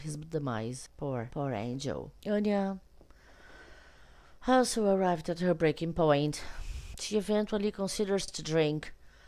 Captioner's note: sighs